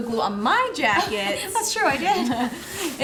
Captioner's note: chuckling; laughing